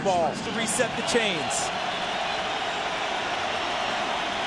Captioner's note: crowd cheering